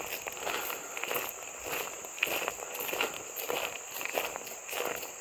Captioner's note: gravel crunching